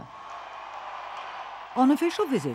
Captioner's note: crowd cheering